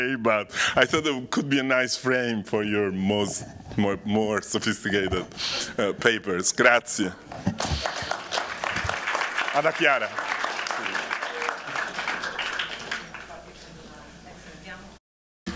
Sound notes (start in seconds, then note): 7.3 applause; 9.2 speaking italian